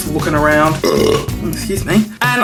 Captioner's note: burping